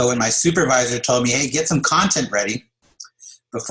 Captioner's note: laughs